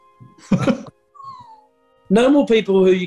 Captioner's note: giggling